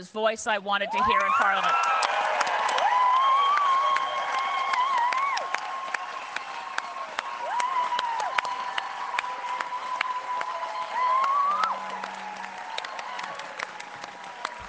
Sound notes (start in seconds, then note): 6.8 cheers and applause